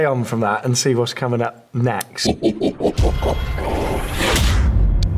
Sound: evil laugh

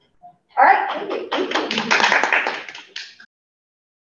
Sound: audience applauds

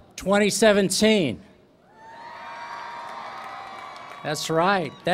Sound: cheering

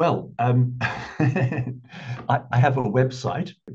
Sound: chuckling

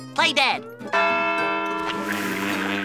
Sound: bell ringing

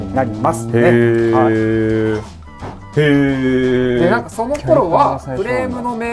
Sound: learning noises

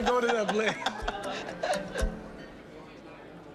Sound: laughing

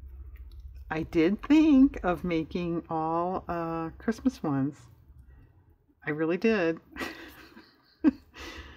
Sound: laughs

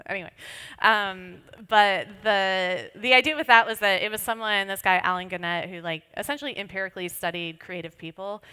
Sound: none

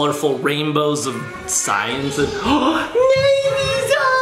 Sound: gasps

